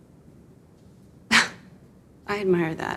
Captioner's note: Wendy sighing